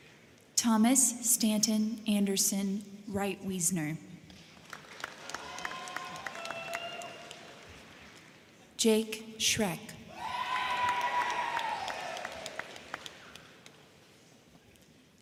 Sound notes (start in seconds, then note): 4.3 crowd clapping; 4.7 crowd cheering; 10.1 crowd cheering; 10.4 crowd clapping